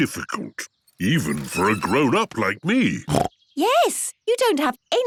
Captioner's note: snorts